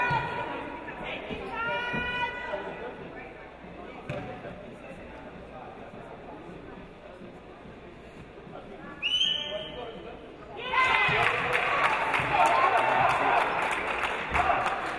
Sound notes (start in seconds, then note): 10.7 audience cheering